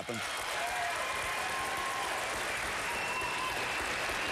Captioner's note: applause